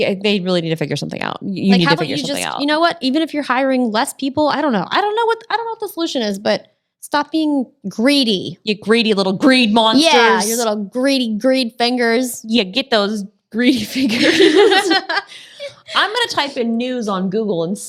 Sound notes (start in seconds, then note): 13.8 ladies laughing